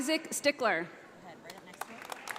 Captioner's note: audience applauding